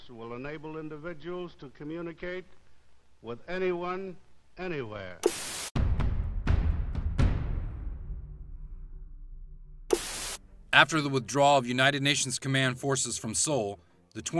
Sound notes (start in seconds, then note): 5.8 dramatic music; 9.9 static buzzing